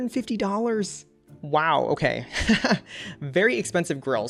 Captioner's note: laughs